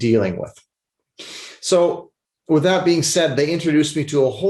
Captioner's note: sniffles